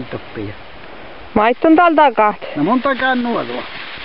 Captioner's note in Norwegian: stemme i bakgrunnen